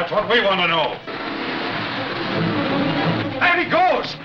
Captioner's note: car accelerating